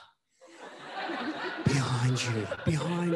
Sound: audience laughing

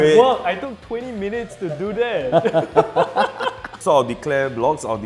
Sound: players laughing

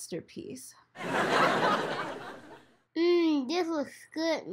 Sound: audience laughs

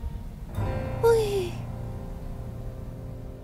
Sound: phew

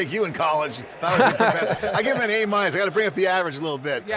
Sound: men chuckling

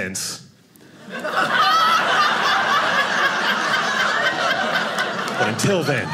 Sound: audience laughing

